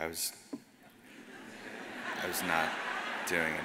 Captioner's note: audience laughs